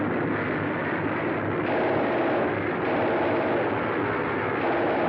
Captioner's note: machine Guns Firing